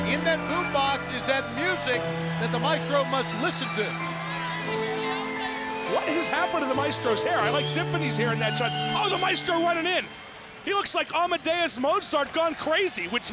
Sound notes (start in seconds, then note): 4.8 crowd yelling and cheering; 4.8 slow piano music continues; 9.0 bell dinging